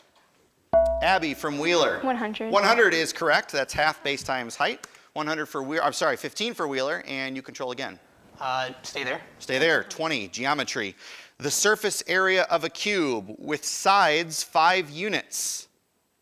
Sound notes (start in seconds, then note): 0.7 ding